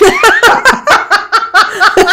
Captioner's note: laughing